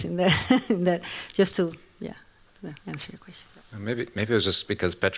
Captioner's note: laughs